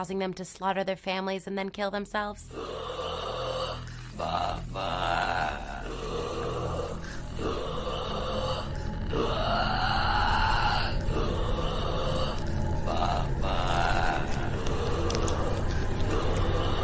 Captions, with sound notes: to slaughter their families and then kill them selves? [Creepy Grunting]